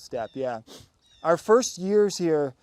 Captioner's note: sniffles